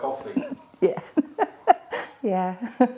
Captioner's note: laughing